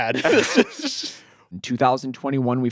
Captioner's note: laughing